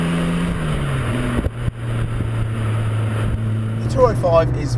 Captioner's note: exhaust sound